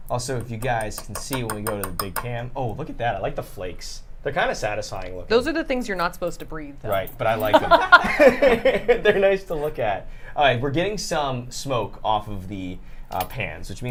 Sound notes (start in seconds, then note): 7.4 laughter